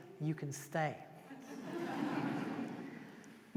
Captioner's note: laughter